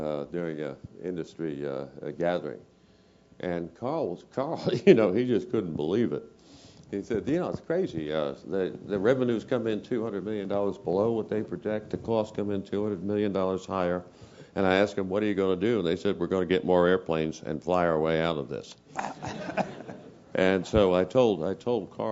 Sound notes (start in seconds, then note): 4.6 laugh; 18.9 laugh